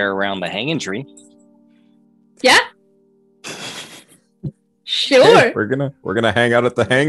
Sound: laughs

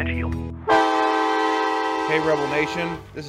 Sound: horn blowing

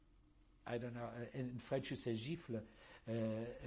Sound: speaking french; speaking german

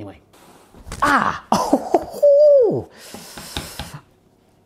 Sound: exclaims

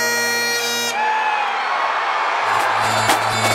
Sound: crowd cheers

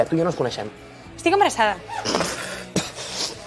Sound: chokes and coughs

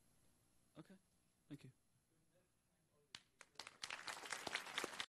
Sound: audience applauding

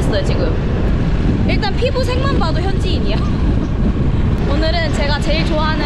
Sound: laughing

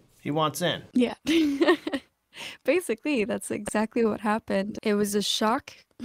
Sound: laughter

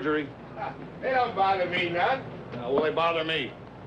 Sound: scoffs

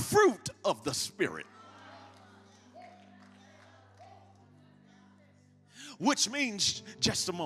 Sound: congregation shouts agreement

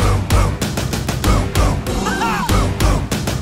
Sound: roar!

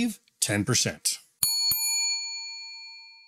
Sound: bell dings

